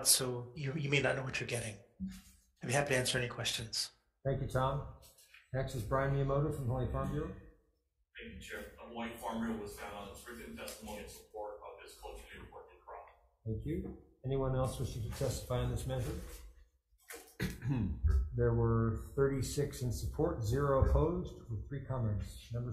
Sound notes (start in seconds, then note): 12.0 faintly speaking